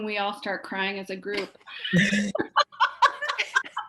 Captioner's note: laughs